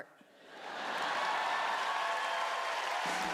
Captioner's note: cheering